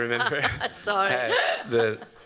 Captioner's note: laughs